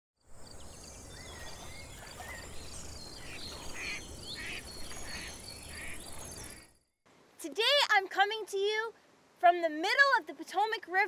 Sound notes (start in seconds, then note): 0.3 birds chirping; 4.3 ducks quacking